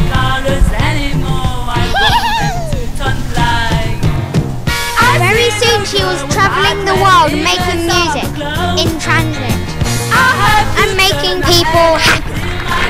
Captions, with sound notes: [giggles] - Very soon, she was travelling the world, making music, in transit. And making people happy.